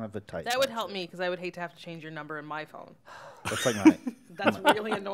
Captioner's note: chuckles